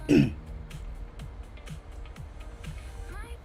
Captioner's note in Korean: 목을 가다듬음